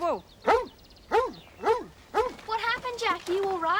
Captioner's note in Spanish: perro ladrando